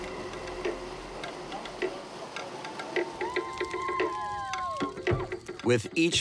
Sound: drum beats; people cheer

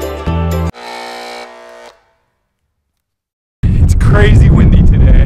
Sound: buzzer sounding

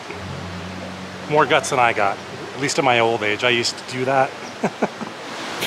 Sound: laughter

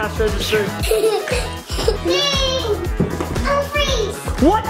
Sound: giggling

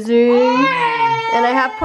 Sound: baby wailing

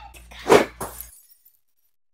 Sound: whoosh!

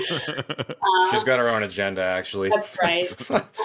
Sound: laughs

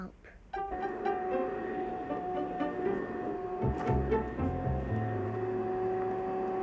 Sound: playful music; vacuum hums

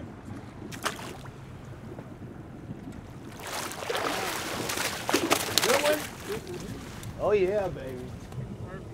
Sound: fish splashing

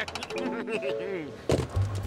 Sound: chuckling

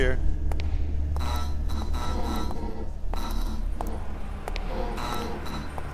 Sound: light buzzing harshly; light sputters, then stops

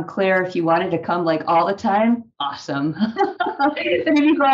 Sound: laughs

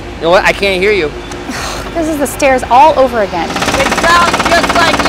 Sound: scoffs

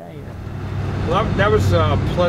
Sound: engine revs

